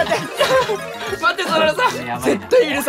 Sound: still laughing

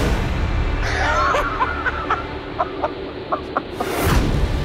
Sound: cackles

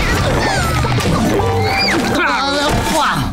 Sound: grunting

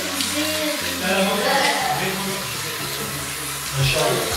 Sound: people talking in the distance

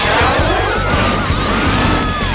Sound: screaming

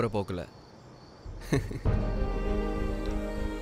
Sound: laughs

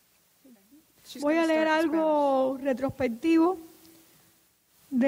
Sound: speaking in Spanish

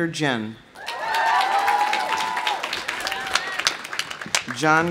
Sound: audience cheering; audience applauding

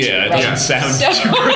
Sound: laughter

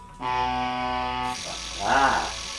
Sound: honk

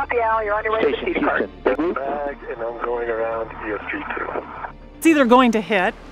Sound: radio noise

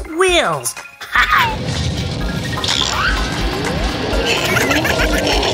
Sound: Dr. McTinker laughs; Gigglebot laughs

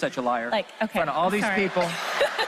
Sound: laughs

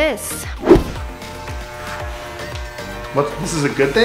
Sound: machine buzzing

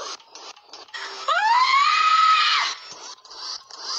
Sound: screams because of this inappropriate link

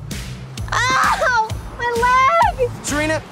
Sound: cries

